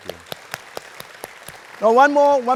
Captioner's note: applause